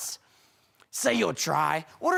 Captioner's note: deep breathing